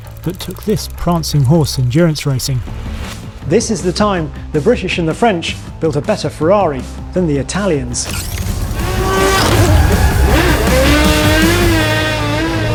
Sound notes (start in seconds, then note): 8.0 engine revving